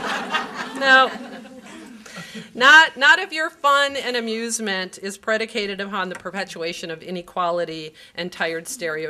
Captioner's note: laughter